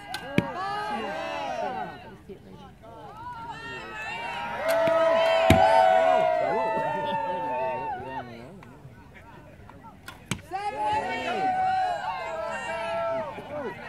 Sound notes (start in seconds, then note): 3.1 crowd cheers and shouts encouragement; 10.4 crowd cheers and shouts encouragement; 13.6 crowd murmuring